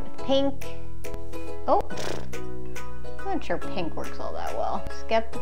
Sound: exhales

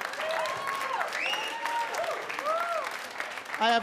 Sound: audience cheer

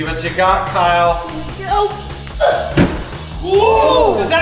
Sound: grunts

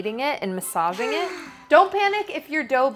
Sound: woman sighing

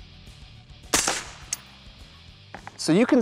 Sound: fires

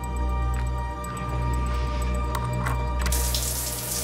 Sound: unlocking door

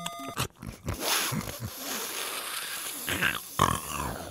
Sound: Mario snorting

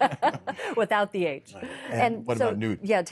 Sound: laughter

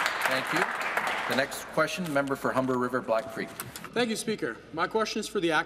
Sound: applause

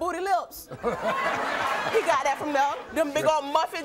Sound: Maury laughs

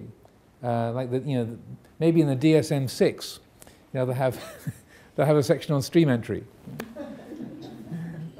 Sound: audience laughs

